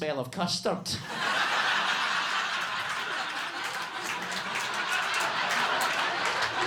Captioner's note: audience laughing and clapping